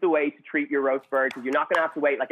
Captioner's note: clapping